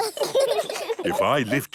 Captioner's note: children laugh